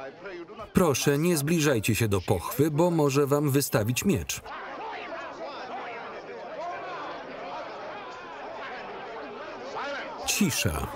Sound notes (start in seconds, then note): 4.6 shouted recriminations